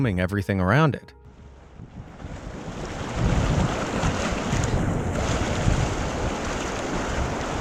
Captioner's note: strong sound of water